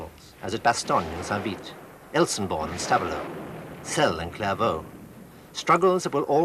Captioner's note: speaking in foreign language